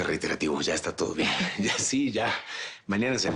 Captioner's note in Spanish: Risas